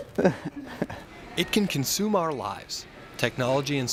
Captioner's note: voiceover